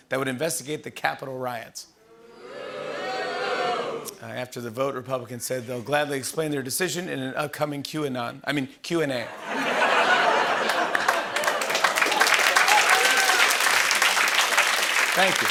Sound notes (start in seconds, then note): 2.3 audience booing; 9.3 laughter and applause